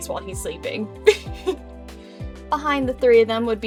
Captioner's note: giggles